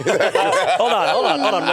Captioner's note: all laughing